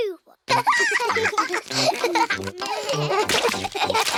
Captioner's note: both giggling